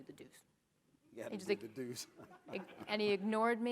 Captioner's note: laughing